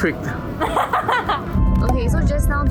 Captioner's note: evil laughter